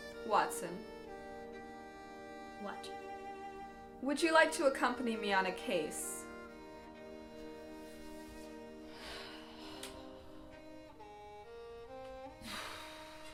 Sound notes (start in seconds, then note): 9.0 sigh; 11.3 intense music